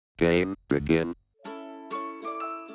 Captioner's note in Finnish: Robottiääni; iloista musiikkia